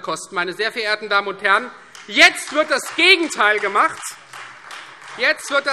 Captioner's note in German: Beifall Freie Demokraten